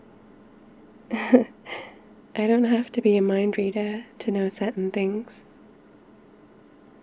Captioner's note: laughs